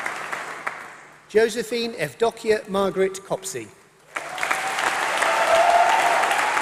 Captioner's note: applause